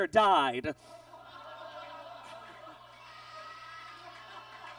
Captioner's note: audience groans